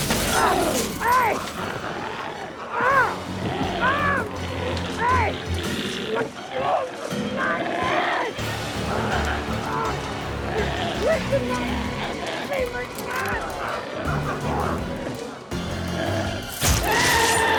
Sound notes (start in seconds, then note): 0.0 glass shatters; 0.3 screams; 3.1 Tector screaming; 14.0 dramatic music continues